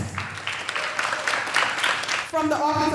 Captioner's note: all applauding and cheering